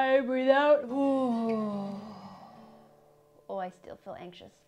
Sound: 1. guitar slides down 2. deflates balloon